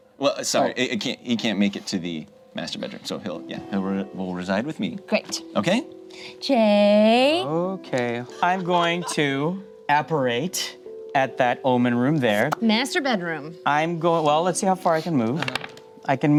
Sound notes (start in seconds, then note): 12.3 pops lips